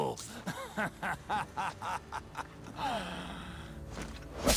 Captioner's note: laughing